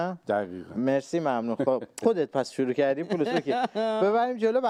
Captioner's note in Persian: خنده